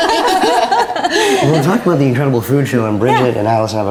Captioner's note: laughter